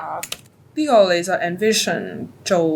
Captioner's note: Cantonese